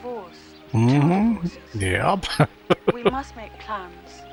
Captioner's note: laughing